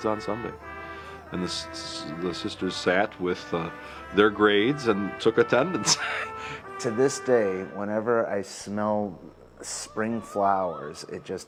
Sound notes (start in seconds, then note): 5.7 laughs